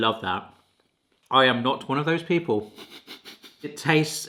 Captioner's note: laughing